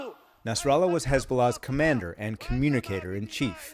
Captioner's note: voice-over